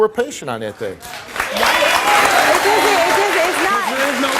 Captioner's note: audience applauds